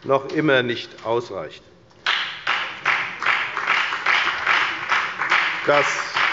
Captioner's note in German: Beifall bei der FDP